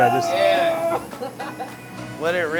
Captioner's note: laughs